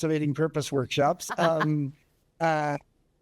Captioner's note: chuckles